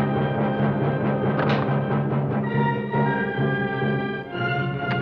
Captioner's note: gun clacks